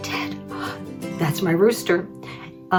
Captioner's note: gasps